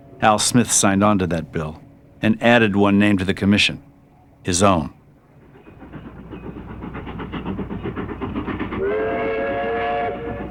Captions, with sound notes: AL SMITH SIGNED ON TO THAT BILL, AND ADDED ONE NAME TO THE COMMISSION-- HIS OWN. [ Engine Chugging ] [ Whistle Blowing ]